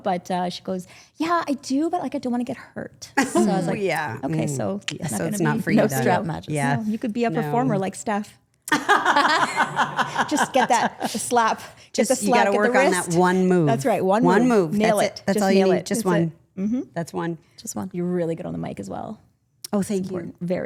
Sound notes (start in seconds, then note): 8.7 women laughing